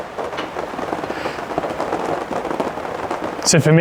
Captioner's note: helicopter whirring